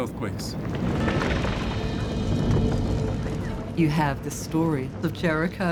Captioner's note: fire rumbling